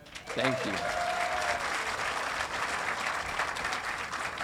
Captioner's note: audience applauding